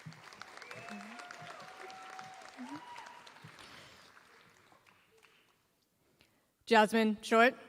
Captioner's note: applause